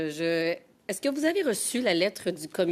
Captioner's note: speaking in French